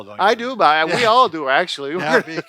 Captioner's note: laughs